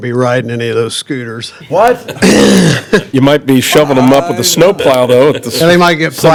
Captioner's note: laughter